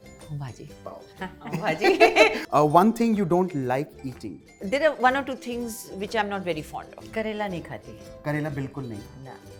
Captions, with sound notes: -Bhaji. -Pav Bhaji. [Chuckles] One thing you don't like eating? There are one or two things which I'm not very fond of. -I don't eat Bitter gourd. -You don't eat Bitter gourd at all.